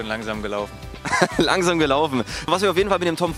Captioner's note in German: lacht